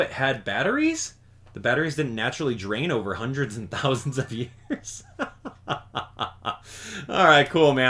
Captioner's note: laugh